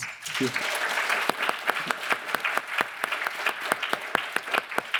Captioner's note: audience applauds